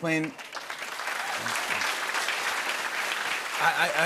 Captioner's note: applause